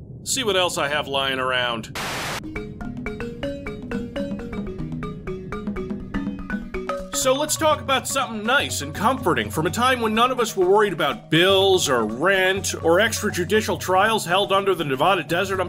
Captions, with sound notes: Let's see what else I have lying around. *TV buzzing* *jungle music* So, let's talk about something nice, and comforting, from a time when none of us were worried about bills, or rent, or extrajudicial trials held under the Nevada desert,